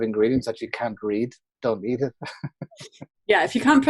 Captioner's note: laughs